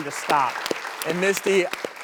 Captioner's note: applause